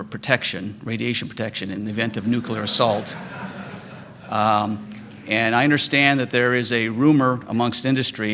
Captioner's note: laughter